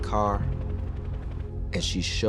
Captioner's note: helicopter blades whirring